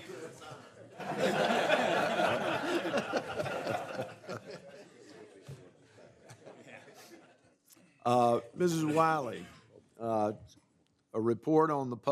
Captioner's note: laughter